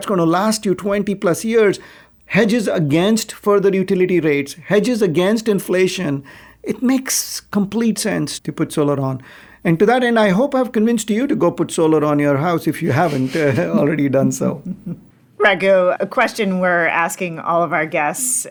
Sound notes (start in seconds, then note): 14.9 chuckling